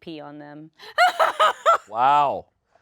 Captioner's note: laughs